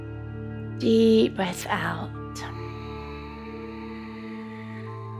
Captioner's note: exhales